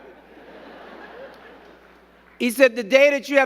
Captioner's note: crowd giggling